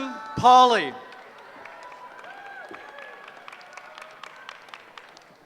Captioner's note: cheering